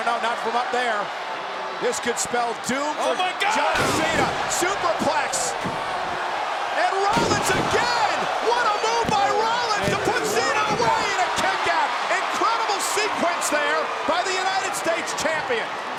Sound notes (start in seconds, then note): 3.7 body thudding; 7.1 hands thudding